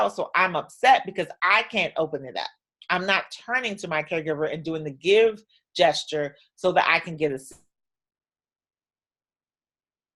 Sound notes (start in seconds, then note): 7.3 audio drops out